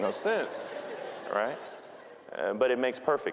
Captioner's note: audience laughing